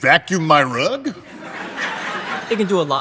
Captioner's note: audience laughing